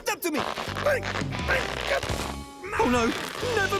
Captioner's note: grunting